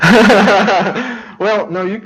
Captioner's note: laughs